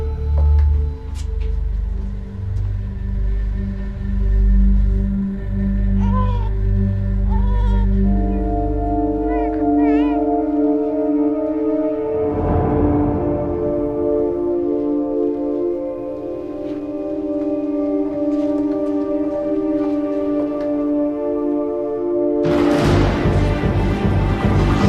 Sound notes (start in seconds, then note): 0.3 footsteps approaching; 7.2 baby crying